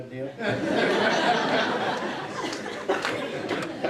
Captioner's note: laughing